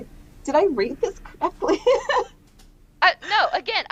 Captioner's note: laughter